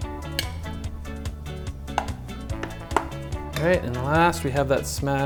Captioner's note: spoon hitting glass